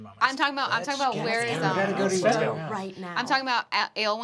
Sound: group talking

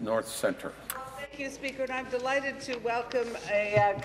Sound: applause

